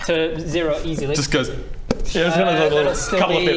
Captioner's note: pop